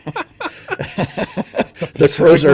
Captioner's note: laughing